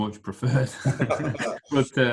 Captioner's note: laughs